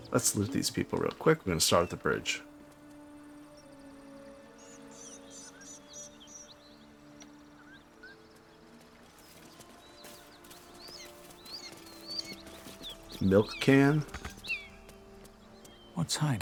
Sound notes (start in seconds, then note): 3.3 silence